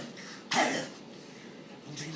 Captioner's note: "gollum" cough